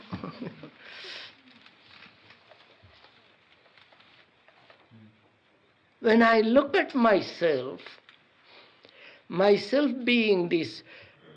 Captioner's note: laughs